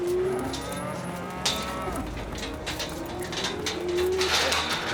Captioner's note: cows mooing; gate clanking